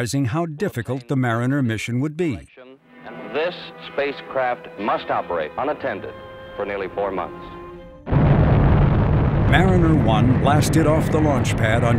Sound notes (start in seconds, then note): 8.0 rocket engine roaring